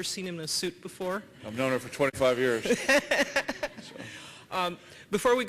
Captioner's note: laughter